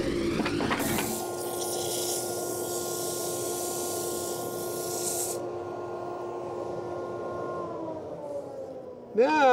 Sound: machine buzzing

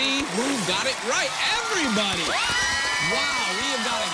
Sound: kids cheering

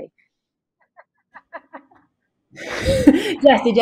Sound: laughing

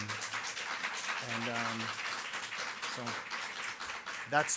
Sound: audience clapping

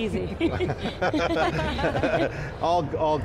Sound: all laughing

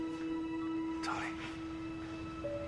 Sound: whispers

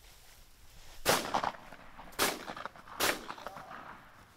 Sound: gun firing

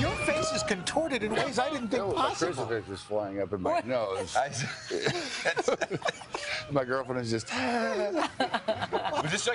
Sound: screaming

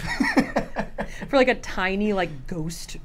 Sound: both laugh

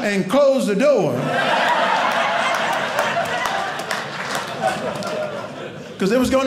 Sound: audience laughing

